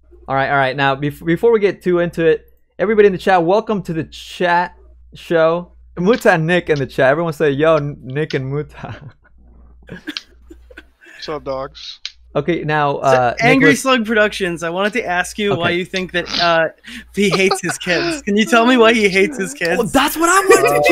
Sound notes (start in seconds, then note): 9.9 laughs